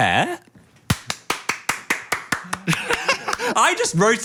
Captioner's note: claps; laughs